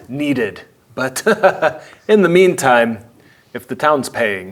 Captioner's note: laughs